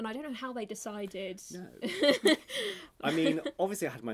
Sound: laughing

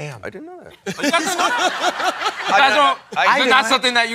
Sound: laughter

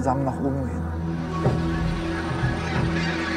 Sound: geese chatter

